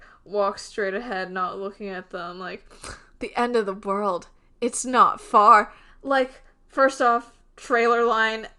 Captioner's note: dramatically